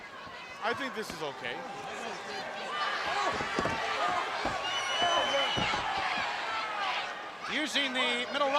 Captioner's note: crowd chatter